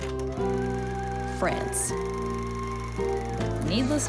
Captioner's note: film reel flapping